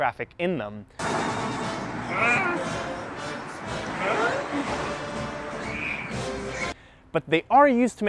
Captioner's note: confused Israeli noises